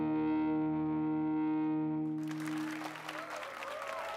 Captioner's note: applase and cheers